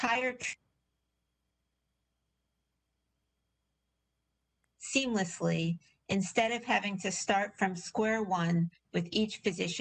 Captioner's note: audio interference